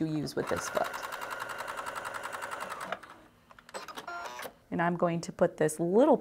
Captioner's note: sewing